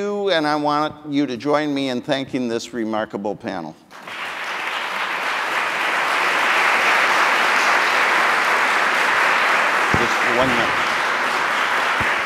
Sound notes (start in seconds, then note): 3.9 audience applauding